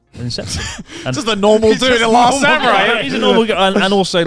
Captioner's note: laughing